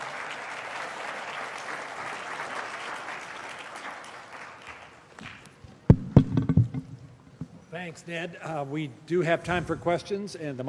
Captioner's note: applause